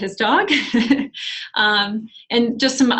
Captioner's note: laughs